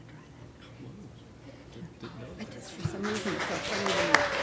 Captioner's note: applause